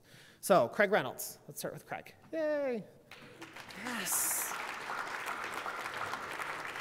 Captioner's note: applause